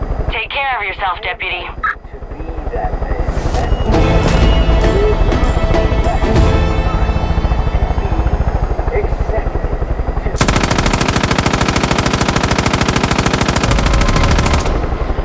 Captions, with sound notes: Take care of yourself, Deputy. (dramatic music) (helicopter whirring) Accepting. (gunfire)